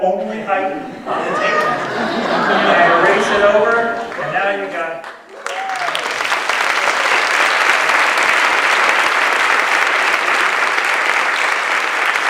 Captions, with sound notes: And he says, yes. And I say was that the only height on the tape measure? [LAUGHTER] I erased it over and now you got-- [APPLAUSE]